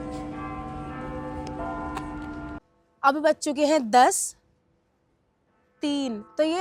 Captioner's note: bell sound